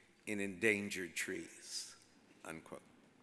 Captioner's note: none